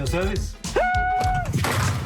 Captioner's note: screams